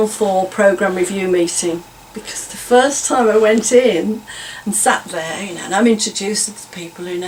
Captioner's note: laughs